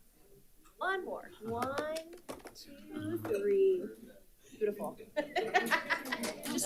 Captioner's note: laughs